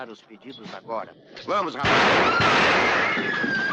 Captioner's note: firing twice